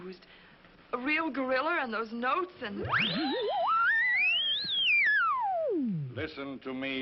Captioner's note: whooshing